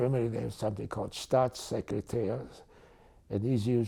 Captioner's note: german